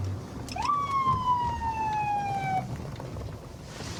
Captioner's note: sirens blaring